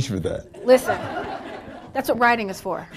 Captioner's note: audience laughing